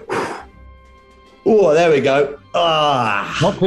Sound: exhales; groans

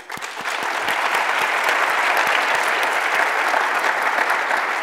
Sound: audience applauds

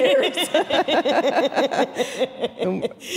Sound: all laughing

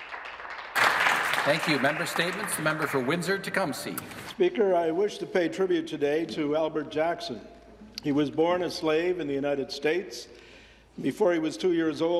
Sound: some Applause

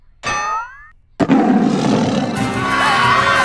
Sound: roars; screaming

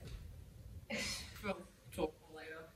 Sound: Oliver laughs lightly

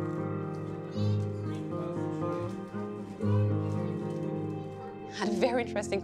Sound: indistinct chatter

